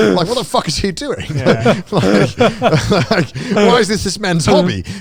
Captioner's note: all laughing